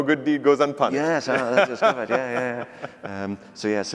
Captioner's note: laughs